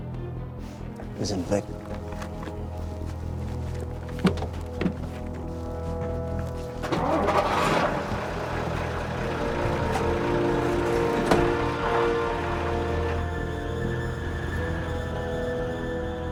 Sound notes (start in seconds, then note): 7.0 engine revs; 13.0 suspenseful music